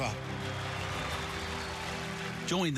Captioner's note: crowd cheering